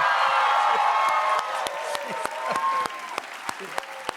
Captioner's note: cheers and applause